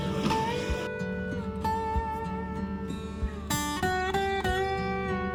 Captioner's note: laughs